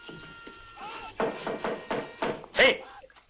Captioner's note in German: Klopfen